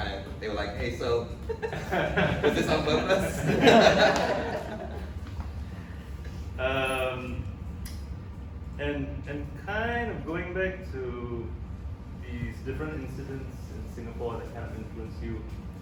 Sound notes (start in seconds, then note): 1.6 audience laughs